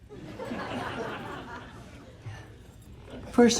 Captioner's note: audience laughing